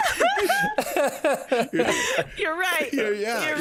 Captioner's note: all laughing